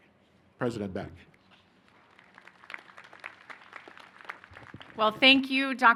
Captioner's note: applause